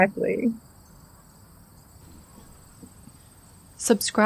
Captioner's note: sound of birds only for a few seconds, then fade into background